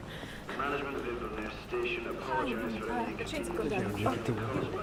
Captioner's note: heavy breathing